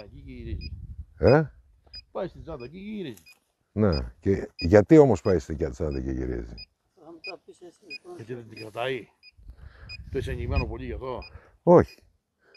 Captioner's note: laughs